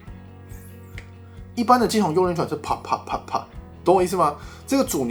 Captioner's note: snap snap snap snap